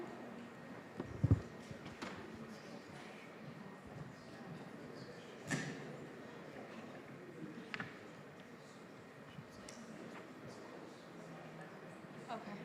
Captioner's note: general chatter